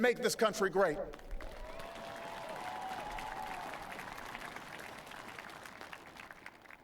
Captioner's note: applause